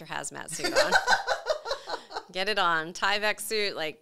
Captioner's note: laughing